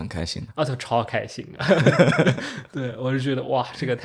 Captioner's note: laughs